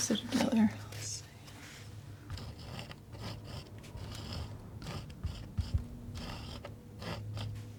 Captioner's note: scratching